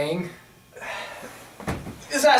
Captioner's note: Sampson sighs